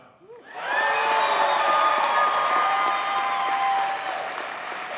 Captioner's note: audience cheers and applauds